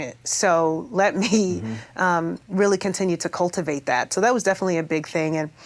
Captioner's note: chuckles